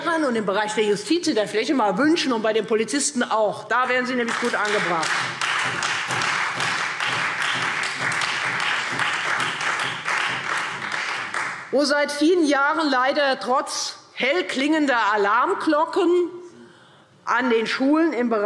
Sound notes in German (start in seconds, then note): 4.2 Beifall Freie Demokraten